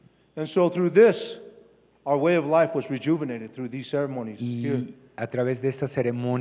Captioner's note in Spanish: Expositor habla en inglés